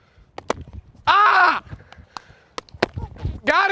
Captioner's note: screams